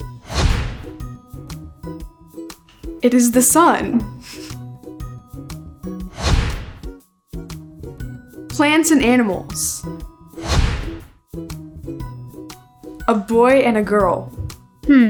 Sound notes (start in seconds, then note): 0.0 upbeat music; 0.1 screen whooshes; 6.0 screen whooshes; 10.4 screen whooshes